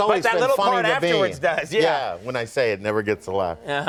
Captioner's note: chuckling